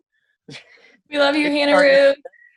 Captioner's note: team exclaims affectionately